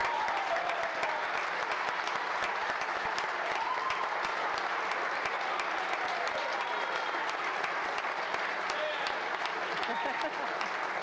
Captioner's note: applause